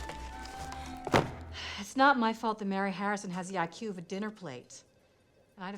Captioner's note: sighs